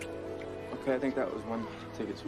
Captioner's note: lips smack